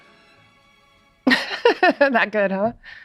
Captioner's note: laughs